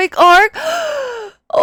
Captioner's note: gasp